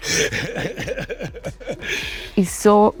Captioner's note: Seth laughs